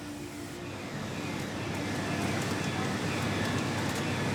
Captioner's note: machines humming